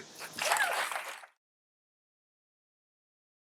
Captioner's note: audience applauding